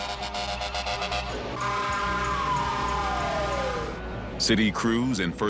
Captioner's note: fire engine honking